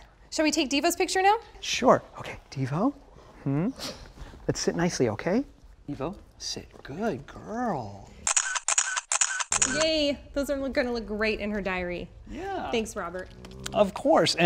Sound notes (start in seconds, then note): 8.2 camera shutter clicking